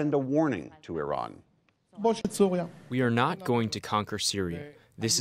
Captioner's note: through translator